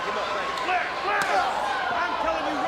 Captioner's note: chop striking